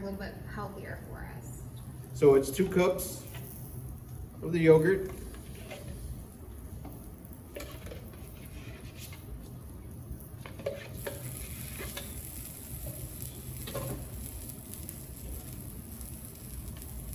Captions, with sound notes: a little bit healthier for us. - So it's two cups of the yogurt. (chicken sizzling on grill)